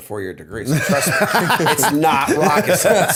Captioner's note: laughter